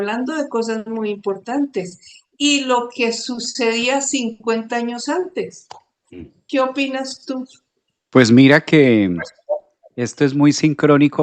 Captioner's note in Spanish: carraspeo